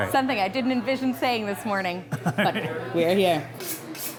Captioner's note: laughs